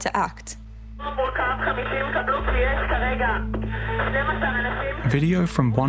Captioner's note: speaking Hebrew